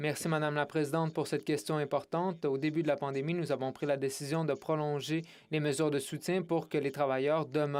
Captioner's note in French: voix de l'interprète